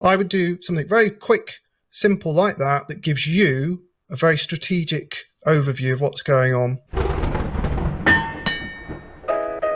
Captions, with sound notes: - I would do something very quick, simple like that that gives you a very strategic overview of what's going on. (lightning cracking) (bell ringing)